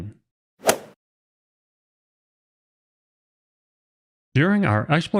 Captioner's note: golf ball hit sound effect